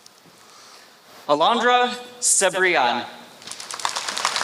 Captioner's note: applause